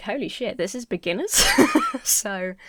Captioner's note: Emma chuckles